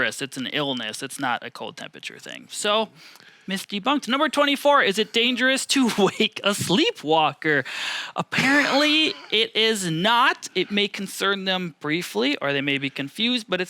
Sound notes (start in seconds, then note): 8.4 laughing